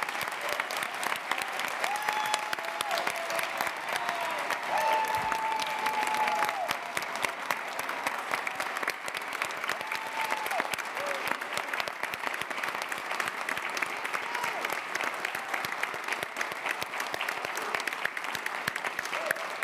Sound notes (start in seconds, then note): 4.0 applause